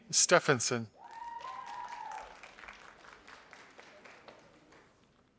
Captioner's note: audience applauding